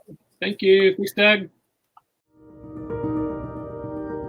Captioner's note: murmurs